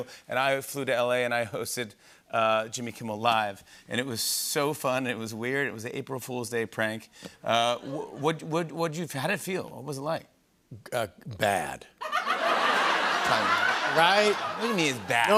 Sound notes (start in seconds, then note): 12.0 laughter